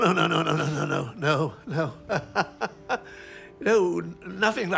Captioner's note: chuckles